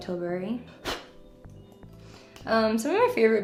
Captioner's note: blows on brush